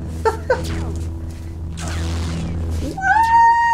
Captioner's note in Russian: смеётся; световой меч парирует лазер; звук выстрела лазера